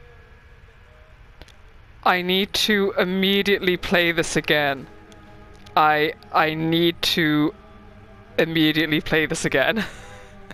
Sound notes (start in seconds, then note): 9.4 laughs